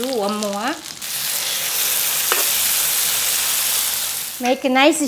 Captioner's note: sizzling